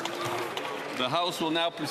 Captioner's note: speaking French